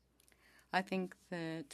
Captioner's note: speaking French